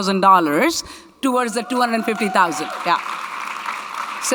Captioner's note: audience cheering; audience clapping